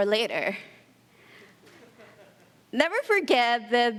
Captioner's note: laughter